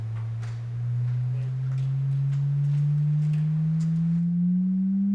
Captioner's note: machine echoing